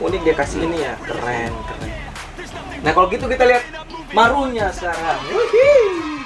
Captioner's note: cheering